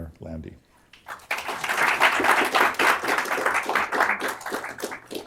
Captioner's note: applause